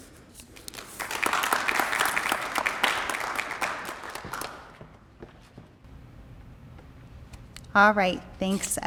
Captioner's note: applause